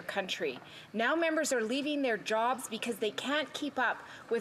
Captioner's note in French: voix de l'interprète